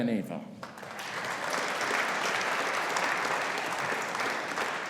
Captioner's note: audience applauding